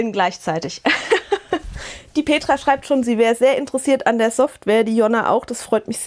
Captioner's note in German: Gelächter